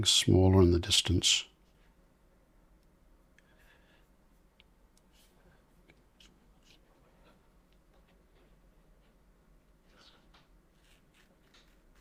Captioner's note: silence